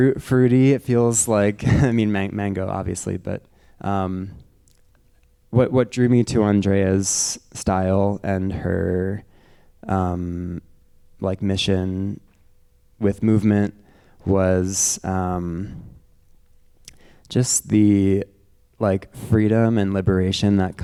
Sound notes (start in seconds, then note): 1.6 chuckles